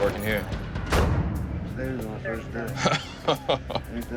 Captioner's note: chuckling